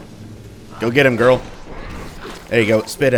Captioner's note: thunder, cages open, fighters alerted